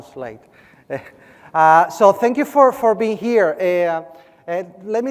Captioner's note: laugh